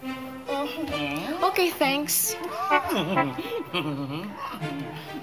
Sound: chuckling

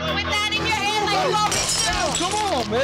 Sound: glass smashes

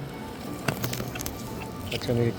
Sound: chewing

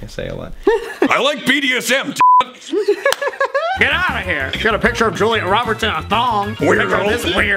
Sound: both laugh

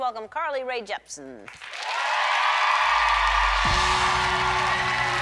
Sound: cheering

